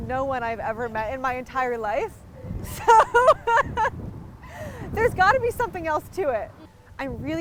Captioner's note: laughing